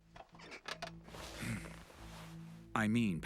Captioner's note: sighs